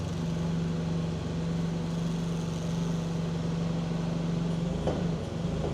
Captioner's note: machinery humming continues